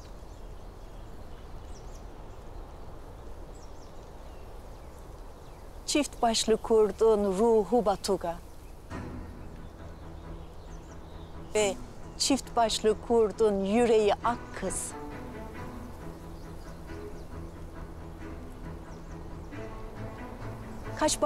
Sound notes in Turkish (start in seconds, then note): 8.6 Kuş cıvıltı sesleri; 8.6 Rüzgar sesi